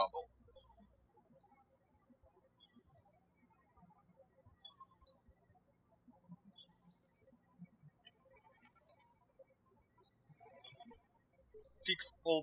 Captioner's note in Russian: птички щебечут